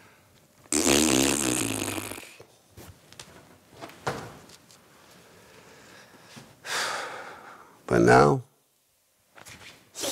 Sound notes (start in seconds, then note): 0.7 fart noise